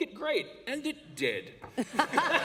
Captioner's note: laughter